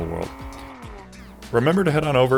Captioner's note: engine humming